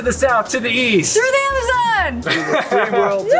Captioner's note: laughs